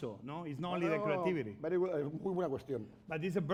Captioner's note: speaking spanish